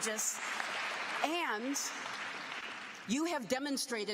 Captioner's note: applause